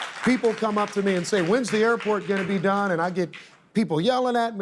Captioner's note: audience clapping